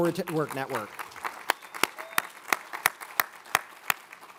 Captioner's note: all applaud